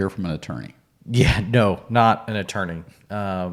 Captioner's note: chuckles